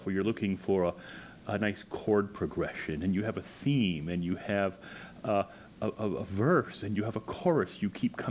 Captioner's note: none